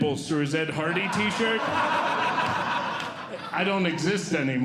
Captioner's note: audience Laughing